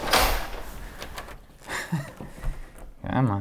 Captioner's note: door creaking; chuckles